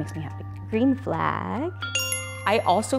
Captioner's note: bell dings